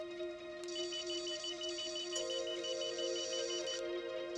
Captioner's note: machine beeping